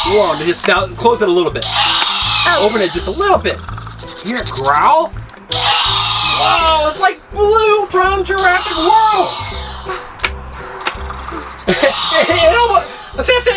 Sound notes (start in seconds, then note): 0.0 dinosaur roar; 1.6 dinosaur roar; 5.5 dinosaur roar; 9.7 dinosaur roaring and growling